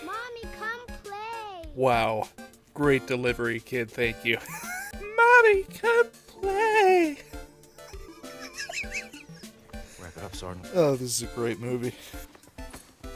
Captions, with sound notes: "Mommy, cooome plaaaaaay!" Wow, great delivery kid, thank you. *wheeze* *mocking* "Mommy, cooome plaaaAAaaAayyY" *wheezing* Oh this is a great movie.